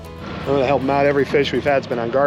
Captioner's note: boat engine running